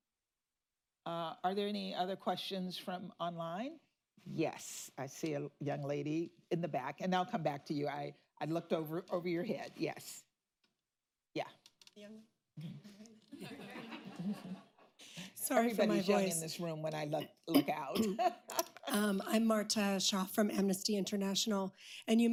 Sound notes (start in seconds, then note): 13.3 laughter; 18.0 laughs